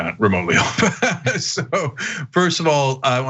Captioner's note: laugh